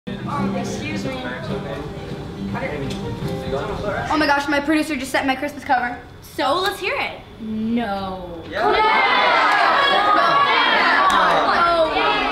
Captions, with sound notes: (teenagers chatting) - Oh my gosh, my producer just sent my Christmas cover. - So let's hear it. - No. (teenagers cheering)